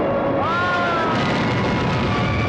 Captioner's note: shouts; explodes